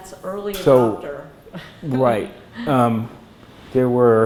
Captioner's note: laughs